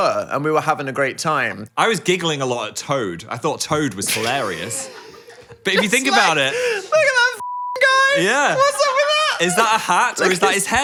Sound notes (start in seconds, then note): 4.1 both laugh; 7.3 beep